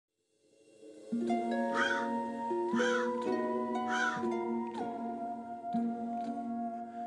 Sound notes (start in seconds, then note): 0.5 mysterious music; 2.7 crow cawing